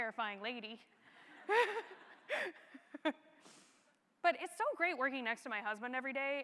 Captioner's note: laugh